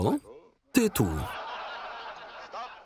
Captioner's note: laughter